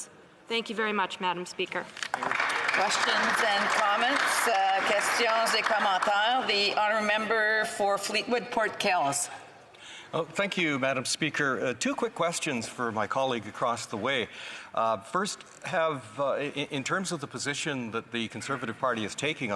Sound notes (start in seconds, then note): 4.9 some Applause; 8.5 speaking French